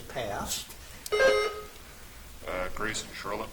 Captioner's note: buzzer chimes